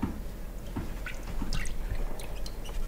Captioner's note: splashing